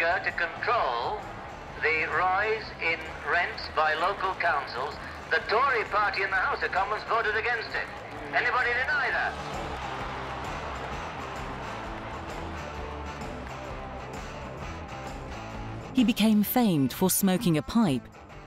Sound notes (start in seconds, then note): 4.3 audience applauding; 10.3 upbeat music continues